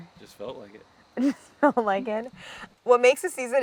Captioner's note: Claire laughs